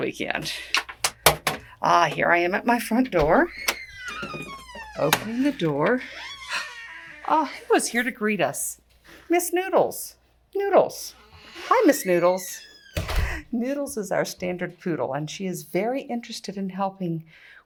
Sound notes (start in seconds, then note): 2.9 door squeaks